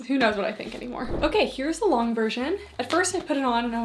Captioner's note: screen whooshing